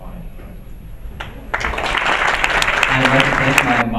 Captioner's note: applause